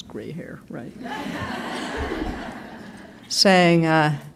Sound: laughter

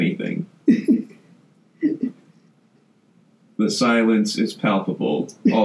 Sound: laughs

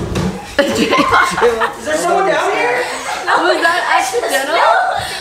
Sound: laughing

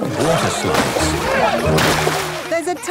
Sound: laughing

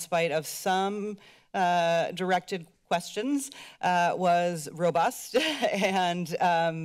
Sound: laughter

